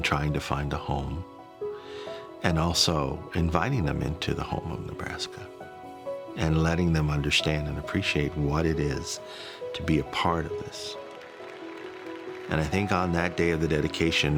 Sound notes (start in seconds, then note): 1.5 gentle music; 10.7 crowd applauds